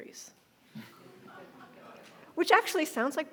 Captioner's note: audience laughing